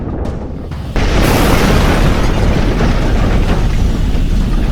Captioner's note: spacecraft rumbling